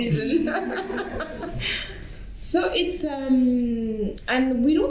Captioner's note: laughter